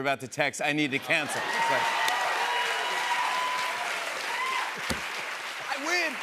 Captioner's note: cheers and applause